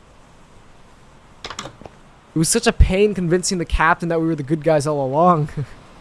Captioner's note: chuckles